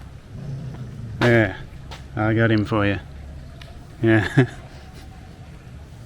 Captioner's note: laughing